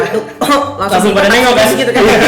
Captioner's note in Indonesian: uhuk